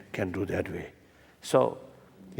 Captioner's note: foreign language